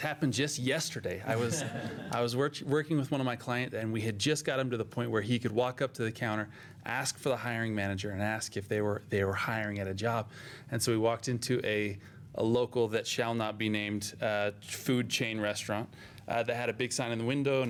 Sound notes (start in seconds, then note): 2.9 laughter